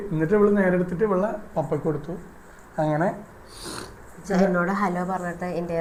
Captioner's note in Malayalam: ചീറ്റുന്നു